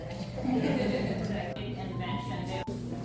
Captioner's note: chuckles